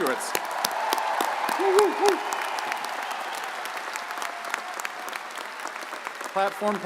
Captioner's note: audience cheers and applauds